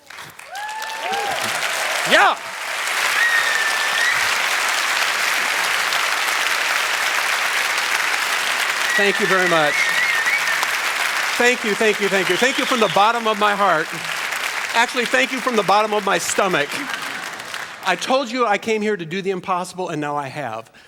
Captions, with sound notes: (Applause) Yeah! (Applause, whistling) Thank you very much. Thank you, thank you, thank you, Thank you from the bottom of my heart. Actually, thank you from the bottom of my stomach. I told you I came here to do the impossible, and now I have.